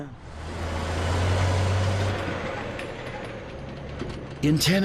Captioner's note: vehicles rumbling